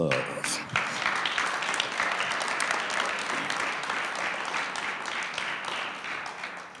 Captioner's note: audience clapping